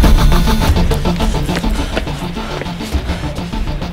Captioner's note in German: Er keucht